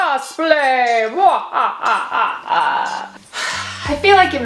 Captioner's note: evil laughing